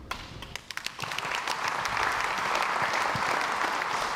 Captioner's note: crowd applauds